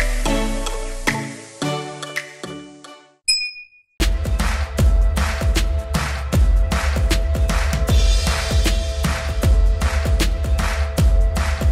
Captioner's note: applause